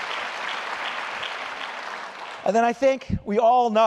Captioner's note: applause